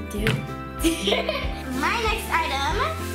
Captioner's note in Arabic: يضحك